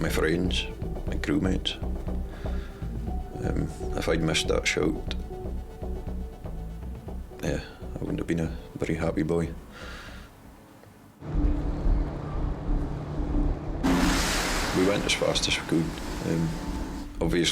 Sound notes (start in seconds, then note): 11.4 gentle music; 11.4 waves roaring